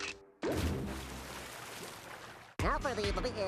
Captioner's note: water splashing